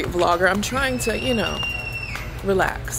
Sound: baby screams

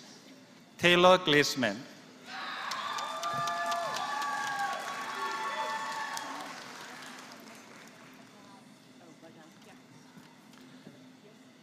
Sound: applause

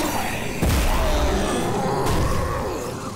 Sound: growling

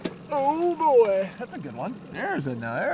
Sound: boat engine idling; fish splashing

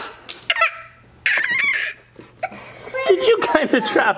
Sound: cries

